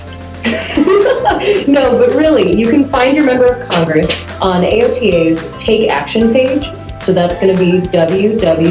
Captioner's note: laughs